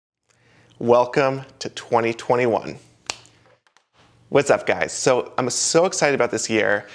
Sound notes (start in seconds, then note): 3.0 finger snapping